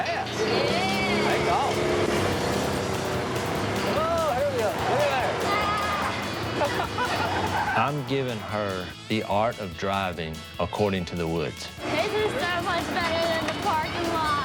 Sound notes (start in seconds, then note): 6.4 laughter